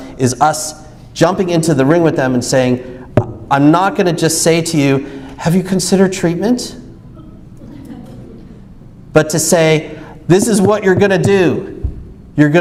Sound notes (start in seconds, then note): 3.2 knocks forcefully; 7.6 audience laughs